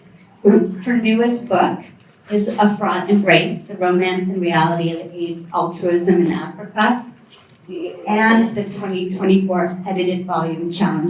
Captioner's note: non-english speech